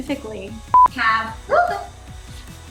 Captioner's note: tone beeps